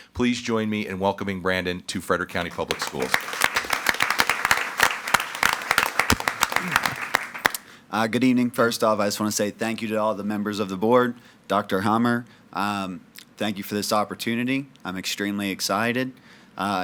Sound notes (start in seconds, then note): 2.3 attendees clapping